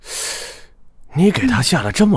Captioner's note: gasps